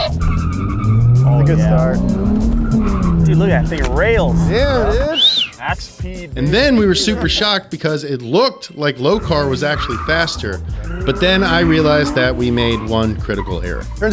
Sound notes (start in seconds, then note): 0.0 tires squealing; 5.1 whistling